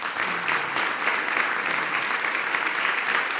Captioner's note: applause